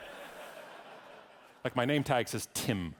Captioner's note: audience laughing